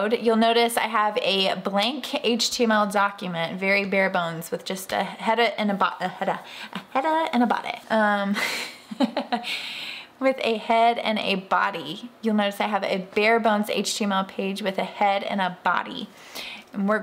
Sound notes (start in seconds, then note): 8.6 laughing